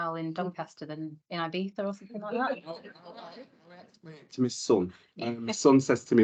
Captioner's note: audience and panel laughs